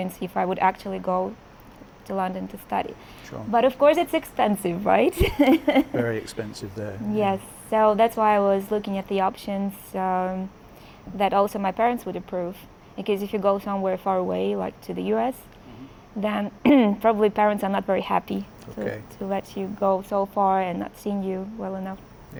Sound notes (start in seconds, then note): 3.2 laughs